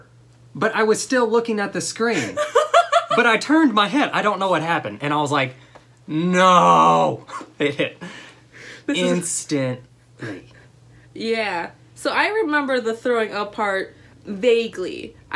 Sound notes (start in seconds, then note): 2.3 laughter